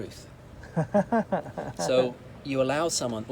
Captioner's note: laughs